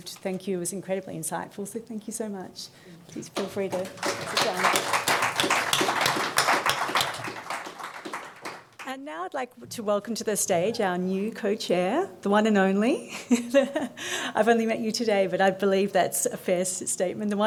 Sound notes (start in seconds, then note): 4.8 audience applauds; 13.1 chuckles